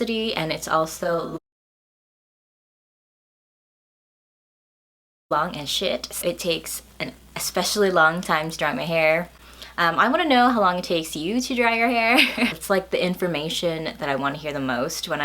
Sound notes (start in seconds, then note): 12.2 laughs